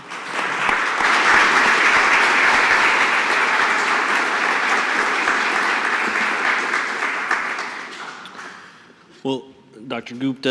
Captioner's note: applause